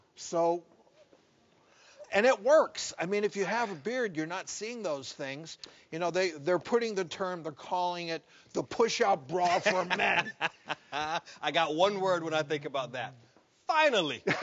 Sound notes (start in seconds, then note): 9.4 laughs; 14.2 both laugh